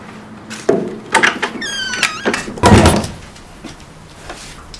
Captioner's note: door closing